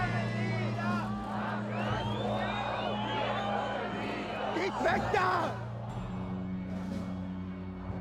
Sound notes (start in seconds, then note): 0.9 chant